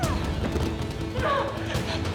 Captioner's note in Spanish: Golpes